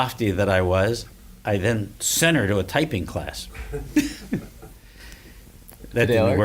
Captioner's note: laughs